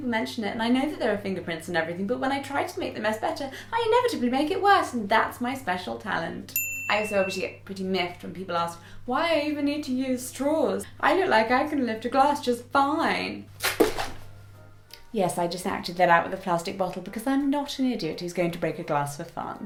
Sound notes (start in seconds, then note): 6.5 bell sfx